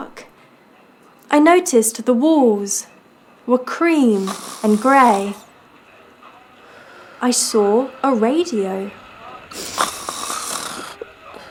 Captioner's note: snoring; 1940s MUSIC; snore